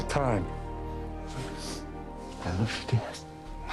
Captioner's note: sniffs